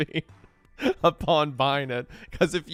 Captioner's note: laughing